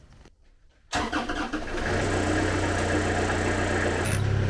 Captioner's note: engine rumbles